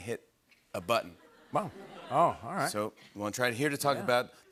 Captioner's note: laughter